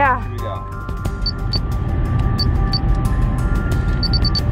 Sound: beeping noises

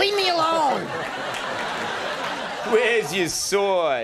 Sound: audience laughing

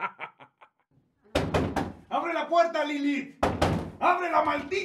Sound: laughter; door knocks

